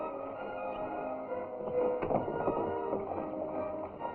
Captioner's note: horses galloping